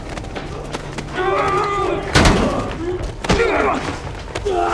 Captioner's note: both yelling, grunting